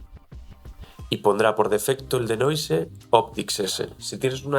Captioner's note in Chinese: 英语